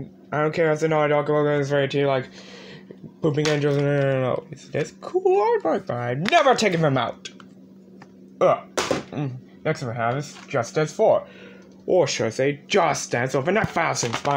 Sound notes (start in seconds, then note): none